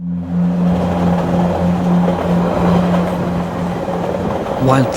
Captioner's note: train rumbling